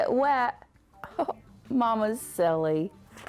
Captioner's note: giggles